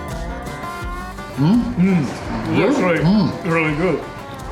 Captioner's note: making caveman-like noises towards each other